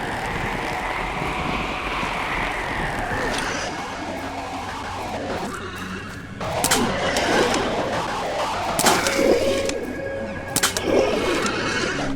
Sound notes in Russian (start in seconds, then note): 0.0 вой ветра, скрип деревянных планок и натяжение верёвок; 3.4 сбитый, электронно зашумлённый крик; 8.7 разносящийся щебет